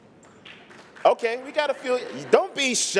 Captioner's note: applause